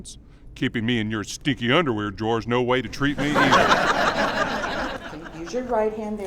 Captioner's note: audience laughs